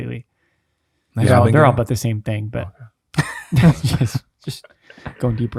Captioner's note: laughs